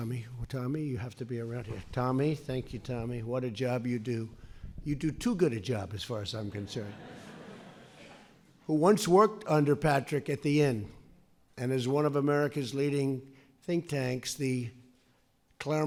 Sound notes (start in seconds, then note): 6.6 laughter